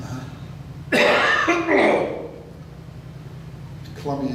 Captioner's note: coughs